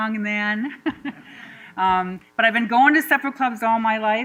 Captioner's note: laughter